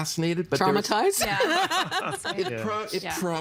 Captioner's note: all laughing